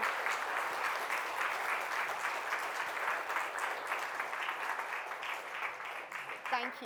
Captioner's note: applause